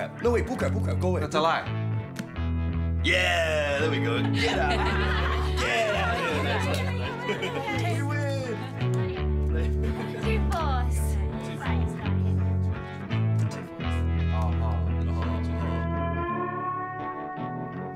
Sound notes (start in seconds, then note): 5.0 group laughs; 9.0 sombre music